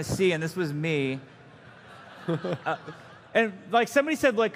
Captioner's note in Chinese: 嘲笑